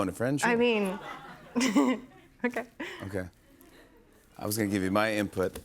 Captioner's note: laughs